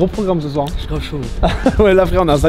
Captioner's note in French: rire